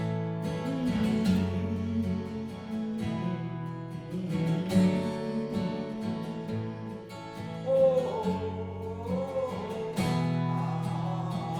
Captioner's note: humming